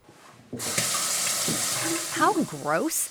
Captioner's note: water running